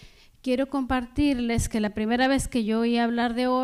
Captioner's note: speaking spanish